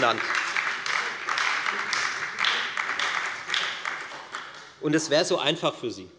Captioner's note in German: Beifall bei der FDP und der SPD